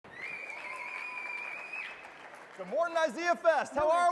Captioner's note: audience cheering